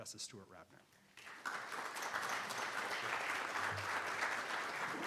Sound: congregation applauding

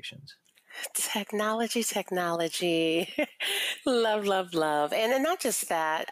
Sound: laughs

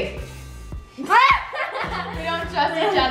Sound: laughing

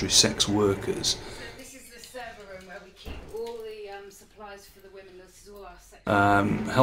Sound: chatter

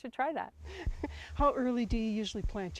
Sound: chuckles

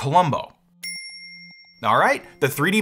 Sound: bell dinging

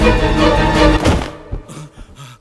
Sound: thuds

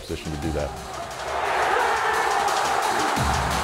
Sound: cheering

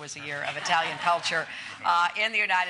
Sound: laughter

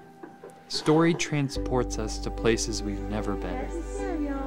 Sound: voiceover

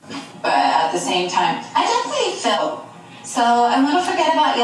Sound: television

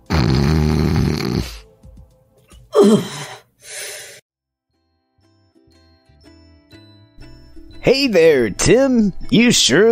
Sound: inhales through a congested nose; shudders

